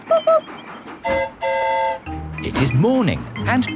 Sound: mimics train whistle; train whistle toots

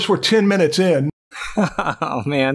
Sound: laughter

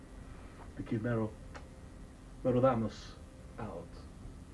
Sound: speaking spanish

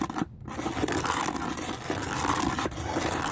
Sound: scrapping Sound

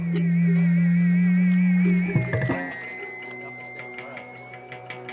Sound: instrument feedback

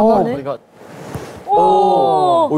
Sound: crack

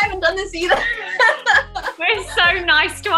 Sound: laughter

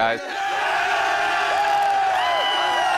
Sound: cheering/applause

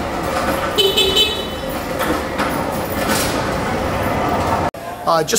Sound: horn beeping

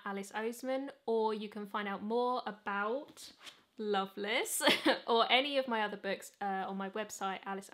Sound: chuckles

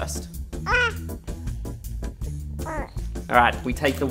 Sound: grunts

